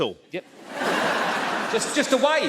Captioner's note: audience laughs